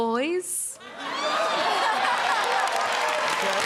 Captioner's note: laughter; applause